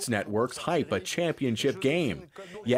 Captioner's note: speaking French